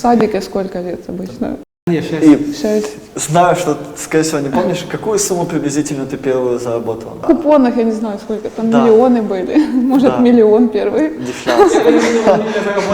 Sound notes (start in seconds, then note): 11.2 laughing